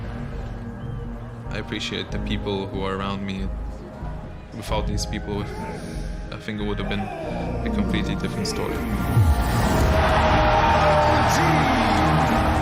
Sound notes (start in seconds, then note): 9.4 crowd cheers